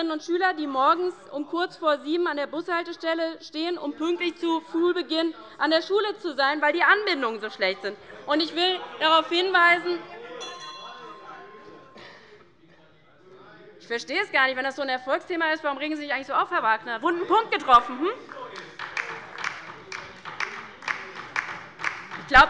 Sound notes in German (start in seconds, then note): 8.1 Unruhe - Glockenzeichen des Präsidenten